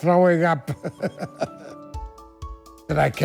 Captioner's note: laughs